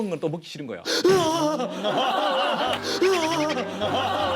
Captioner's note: gasping; laughing